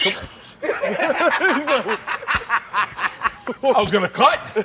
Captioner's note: laughter